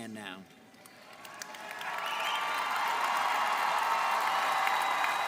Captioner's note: audience cheering